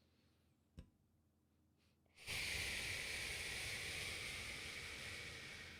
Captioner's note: exhales